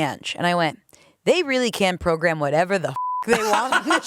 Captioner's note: beep